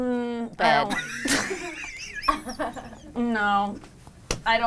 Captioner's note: laughter